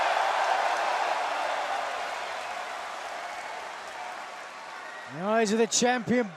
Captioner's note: crowd cheering